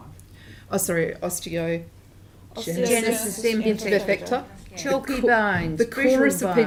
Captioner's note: crowd chattering